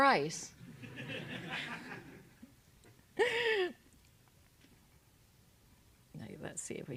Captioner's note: laugh